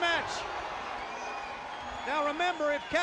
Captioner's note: crowd cheering